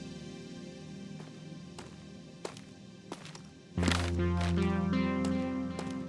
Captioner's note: footsteps